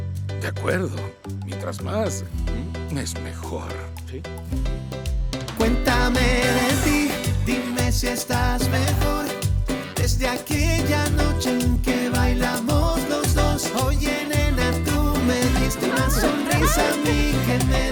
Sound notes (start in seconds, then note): 5.4 Música latina; 15.6 Todos ríen